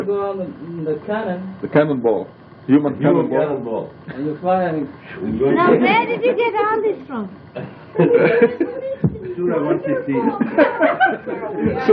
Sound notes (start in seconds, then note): 7.9 laughter